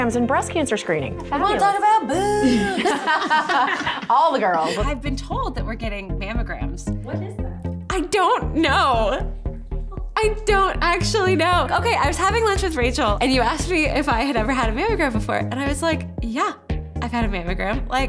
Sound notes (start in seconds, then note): 2.2 laughter